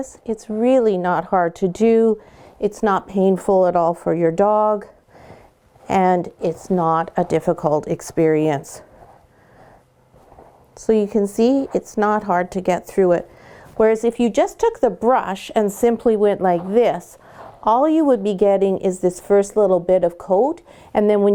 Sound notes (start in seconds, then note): 9.0 soft brushing; 16.9 soft brushing